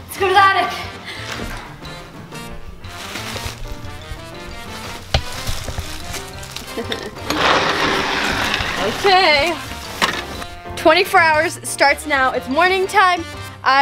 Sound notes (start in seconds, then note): 3.1 bag shuffling; 6.7 laughter